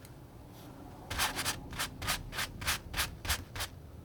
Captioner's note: scratching